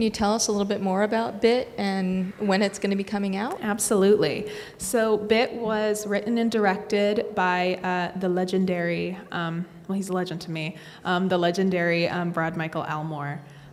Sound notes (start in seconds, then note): none